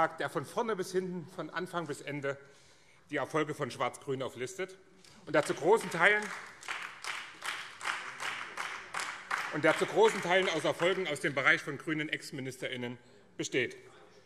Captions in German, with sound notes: der von vorne bis hinten, von Anfang bis Ende die Erfolge von Schwarz-Grün auflistet [Beifall BÜNDNIS 90/DIE GRÜNEN] und zu großen Teilen aus Erfolgen aus den Bereichen grüner Ex-Ministerinnen und Ministern besteht.